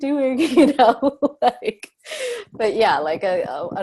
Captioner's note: laughs